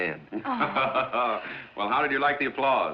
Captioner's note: laughing